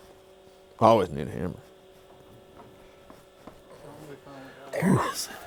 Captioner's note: machine hums